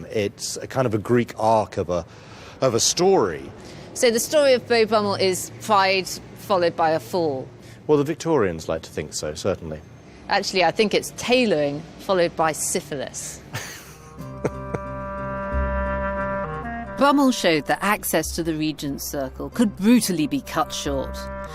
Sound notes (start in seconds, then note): 13.5 chuckles